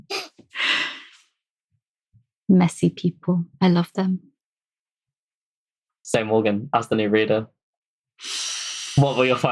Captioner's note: laughs